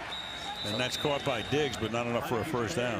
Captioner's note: whistle